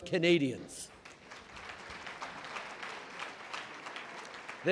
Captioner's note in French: Applaudissements